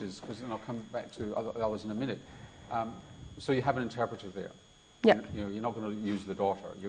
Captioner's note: none